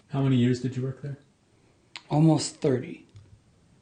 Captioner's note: voiceover